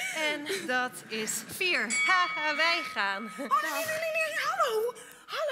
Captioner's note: bell